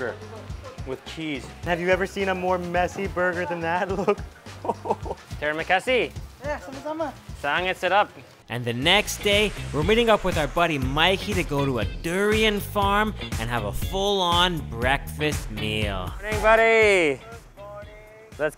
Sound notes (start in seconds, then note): 3.4 chuckling; 5.5 speaking in foreign language